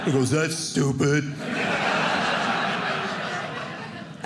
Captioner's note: audience laughing